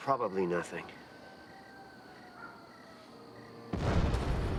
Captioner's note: police siren continues wailing; explosion blasts